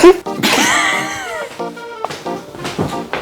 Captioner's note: laughing